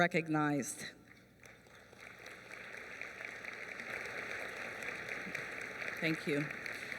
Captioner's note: applause